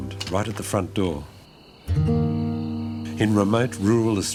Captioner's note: crickets chirp